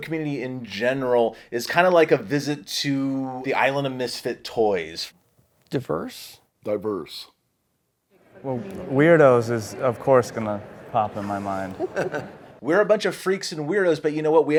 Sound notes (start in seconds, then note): 11.6 laughter